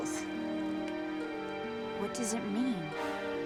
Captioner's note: voiceover